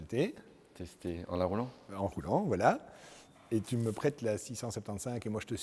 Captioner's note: none